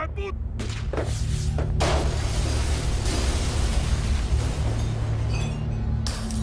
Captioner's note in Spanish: Zumbido; Estruendo